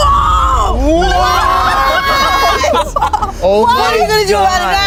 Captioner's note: everyone laughs